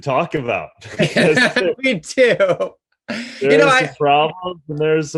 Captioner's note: laughs